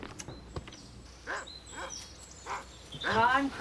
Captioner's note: dog barks